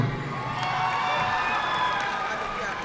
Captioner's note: audience cheering and applauding; student faintly speaking